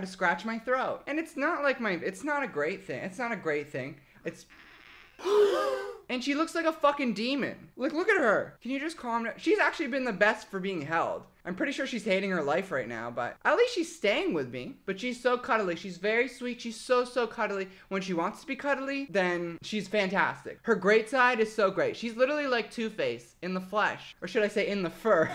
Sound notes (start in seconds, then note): 5.2 audience gasping